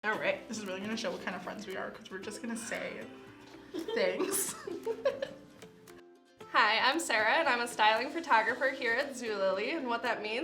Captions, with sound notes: >> This is really gonna show what kind of friends we are, 'cause we're just gonna say... things. [ Both laugh ] >> Hi. I'm Sarah, and I'm a styling photographer here at Zulily, and what that means is